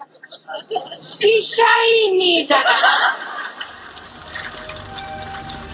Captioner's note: laughs